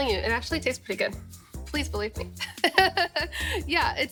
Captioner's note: laughing